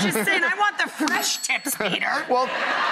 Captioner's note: laughs; audience laughs